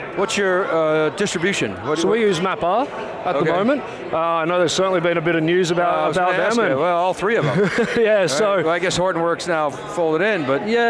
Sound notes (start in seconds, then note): 7.4 laughs